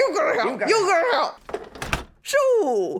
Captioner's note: door slamming